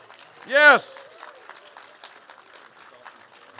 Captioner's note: cheers and applause